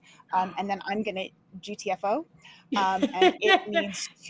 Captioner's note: laughing